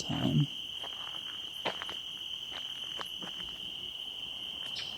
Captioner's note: crickets chirping